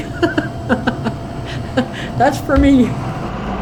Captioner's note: laughing